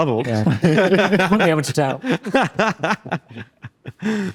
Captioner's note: laughs